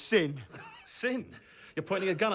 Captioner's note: laughs